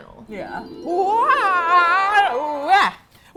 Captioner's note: grunts